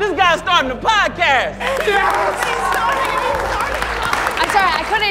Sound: applause

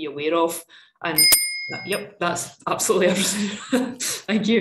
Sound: bell rings

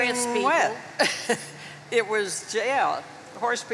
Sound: chuckles

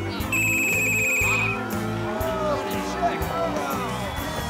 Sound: whistle blowing

